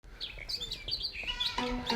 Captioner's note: chirping, twittering